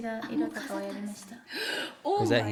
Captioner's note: speaking in foreign language